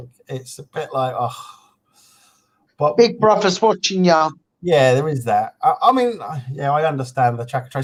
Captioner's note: sigh